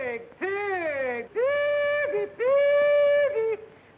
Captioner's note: hollering